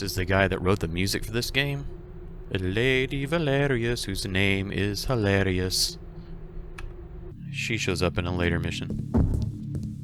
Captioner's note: sing-songy voice